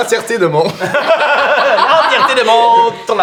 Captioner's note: laughter